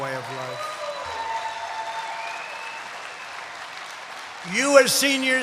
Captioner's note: applause